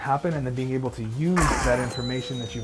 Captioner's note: gunshot bangs; robot whines